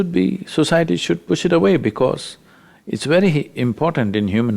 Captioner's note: none